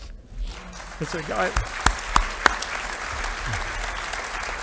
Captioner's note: audience applauding